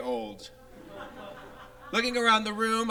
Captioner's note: audience laughs